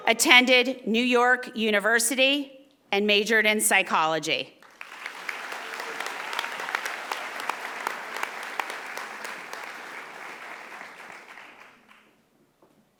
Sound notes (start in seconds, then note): 4.6 audience applauding